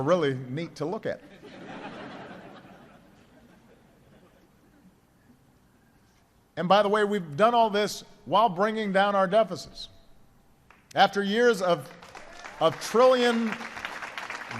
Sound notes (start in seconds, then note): 1.2 laughter; 10.1 applause